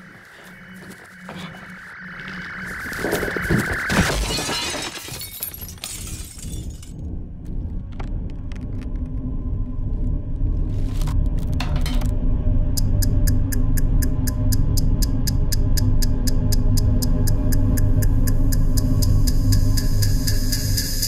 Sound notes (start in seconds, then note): 3.9 glass breaking; 12.7 ticking clock